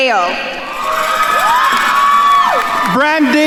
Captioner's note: attendees cheering and applauding